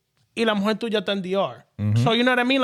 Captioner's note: speaking In Foreign Language